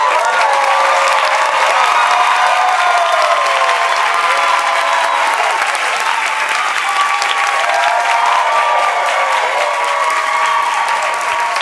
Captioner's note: cheers and applause